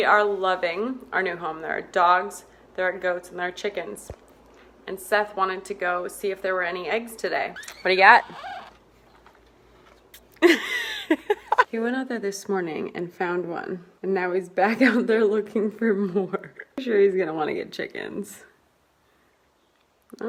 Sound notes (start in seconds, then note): 10.2 laughs